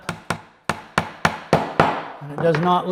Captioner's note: mallet tapping